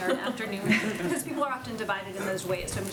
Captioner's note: laughter